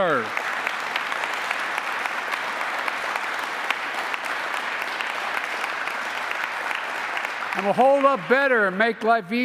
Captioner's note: applause